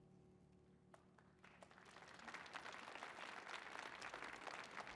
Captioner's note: audience applauds